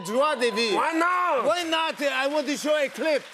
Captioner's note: French accent